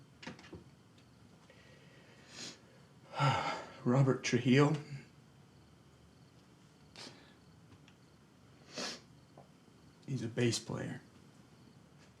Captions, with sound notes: - (sighs) Robert Trujillo. (sniffles) He's a bass player.